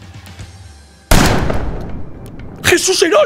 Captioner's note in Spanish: Disparo